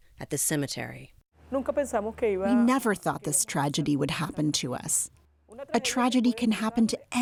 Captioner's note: through translator